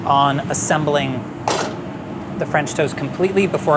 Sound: spoon clatters

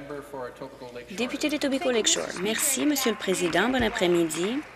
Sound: applause

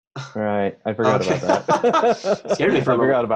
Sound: laughing

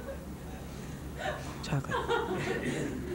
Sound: laughter

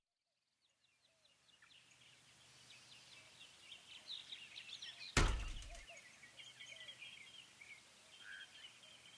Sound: birds singing outside

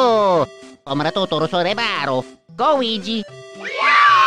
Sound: some MYSTERIOUS Language

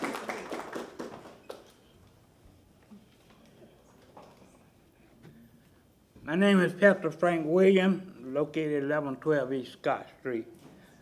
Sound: applause

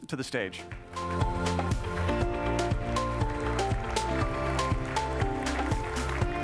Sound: light happy music; applause

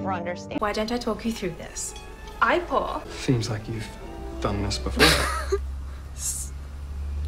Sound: laughs

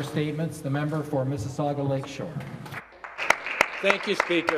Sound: some Applause

